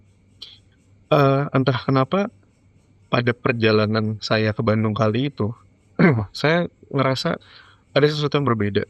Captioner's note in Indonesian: berdehem